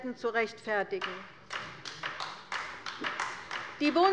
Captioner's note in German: Beifall bei der LINKEN